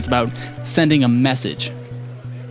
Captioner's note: none